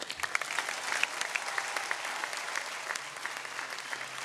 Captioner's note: audience cheering